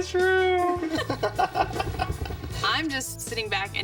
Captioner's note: both laughing